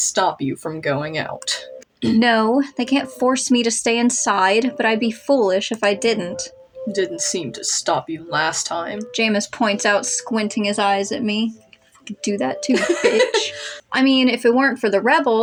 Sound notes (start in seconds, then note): 12.7 laugh